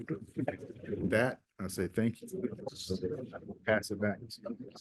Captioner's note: audio stutters